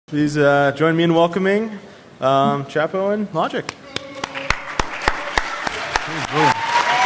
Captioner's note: applause